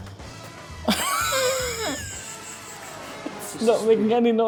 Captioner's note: laughing